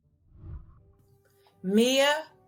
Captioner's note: whooshing